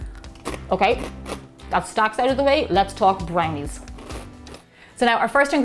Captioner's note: crunches